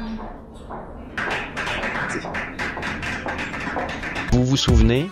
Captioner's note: applause